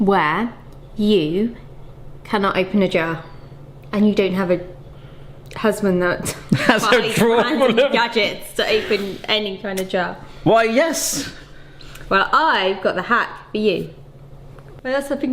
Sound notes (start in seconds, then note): 6.3 laughing